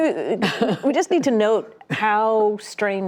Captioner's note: laughter